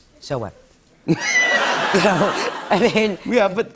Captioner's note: laughter